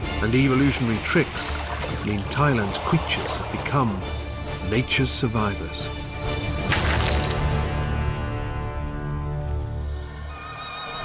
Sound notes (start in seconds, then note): 6.6 cracking; 10.5 calm ethnic music